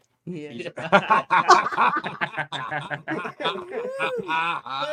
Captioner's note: laughing